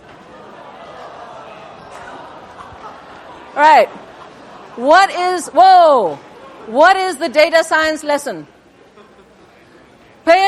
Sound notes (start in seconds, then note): 0.3 laughter